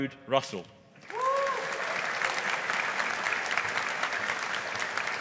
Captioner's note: audience applauding